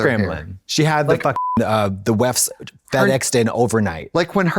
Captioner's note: beep